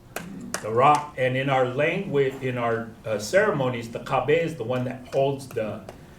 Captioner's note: non-english